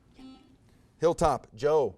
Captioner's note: buzzer buzzes